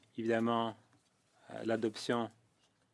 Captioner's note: speaking French